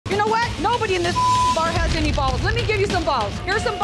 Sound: beep

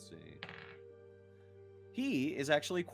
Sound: dice tapping

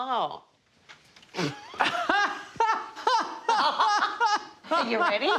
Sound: both laugh

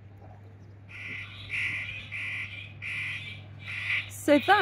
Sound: seagull noises

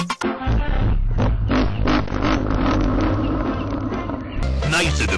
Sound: slow, distorted laughter

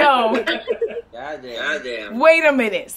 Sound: audience Reaction

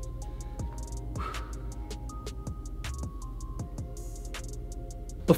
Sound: presenter exhales

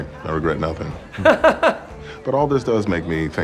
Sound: laughs

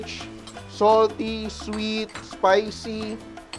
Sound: sizzle; clang; sizzle; clang

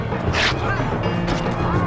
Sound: cloth tearing

